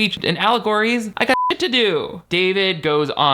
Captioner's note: beep